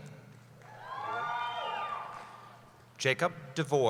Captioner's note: cheering